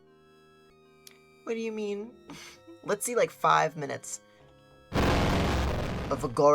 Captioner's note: loud crashing noise